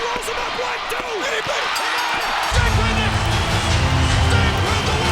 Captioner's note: bell rings